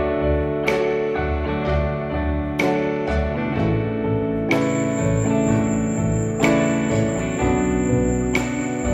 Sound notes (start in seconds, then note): 4.5 crickets chirping in background